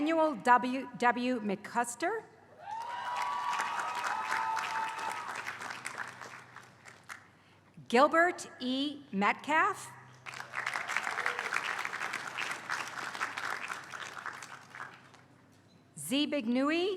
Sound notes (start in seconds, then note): 0.0 applause